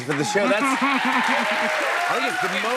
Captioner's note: cheers and applause